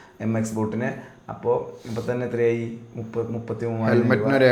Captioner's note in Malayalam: ചീറ്റുന്നു